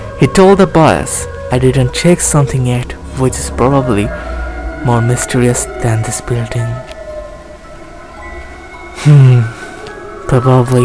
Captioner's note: deep breath